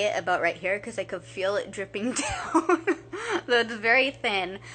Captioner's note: laughing